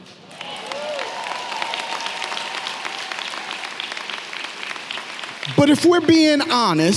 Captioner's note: audience clapping and cheering